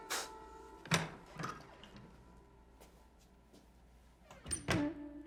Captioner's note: door opens and shuts